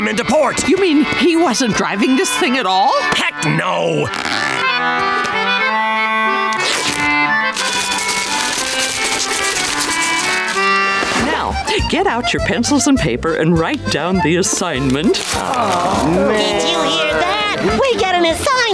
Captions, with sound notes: You mean, he wasn't driving this thing at all? Heck, no! [ripping] Now get out your pencil and paper and write down the assignment. [groaning] Did you hear that? We get an assignment!